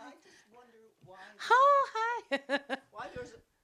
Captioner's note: laughs